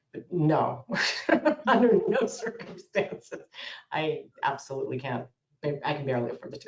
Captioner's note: laughs